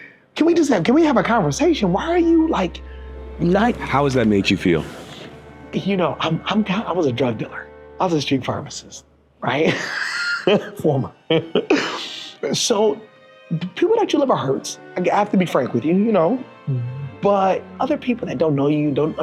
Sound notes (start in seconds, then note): 9.6 laughing; 9.6 laughs; 11.8 pensive music